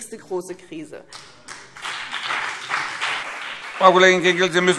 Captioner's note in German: Beifall BÜNDNIS 90/DIE GRÜNEN und vereinzelt CDU